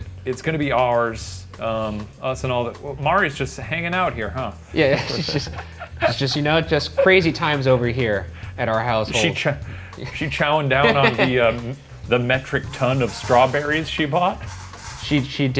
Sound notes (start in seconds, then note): 4.8 laughs; 10.8 laughs